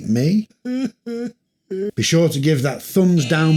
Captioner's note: crying